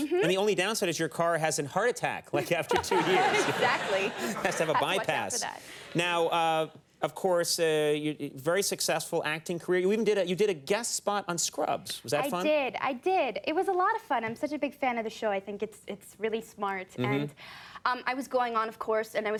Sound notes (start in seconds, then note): 2.6 everybody laughing